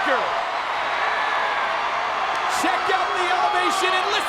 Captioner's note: crowd cheering